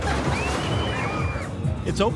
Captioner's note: upbeat music; visitors screaming; upbeat music